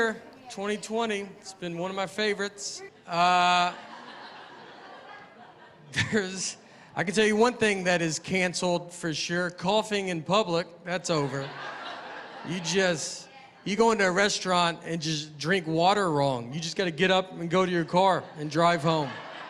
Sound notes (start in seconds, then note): 3.2 laughter